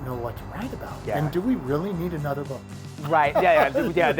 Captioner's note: laughing